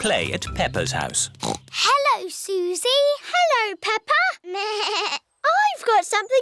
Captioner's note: snorts; bleats